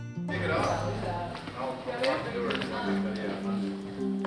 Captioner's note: group chatter